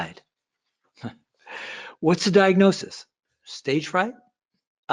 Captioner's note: laughs